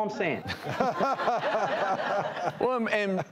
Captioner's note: laughing